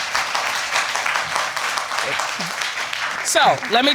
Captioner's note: applause